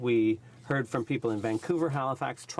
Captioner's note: speaking French